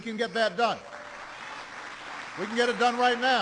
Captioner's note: applause